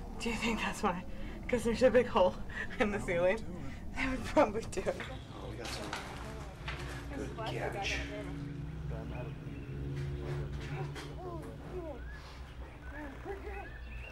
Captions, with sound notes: Do ya think that's why? 'Cause there's a big hole in the ceiling? [laughs] That would probably do it. [more chatter]